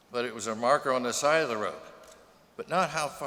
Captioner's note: none